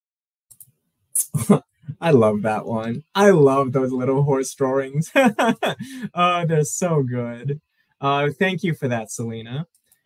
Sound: laughs

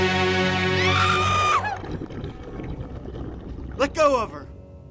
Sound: screaming

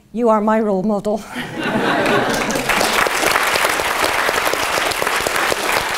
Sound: laugh; applause

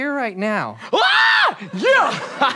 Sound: scream

